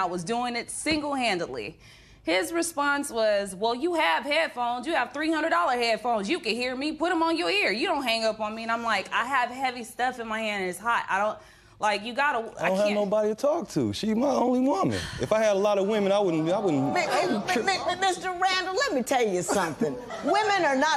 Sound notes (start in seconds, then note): 16.2 spectators murmuring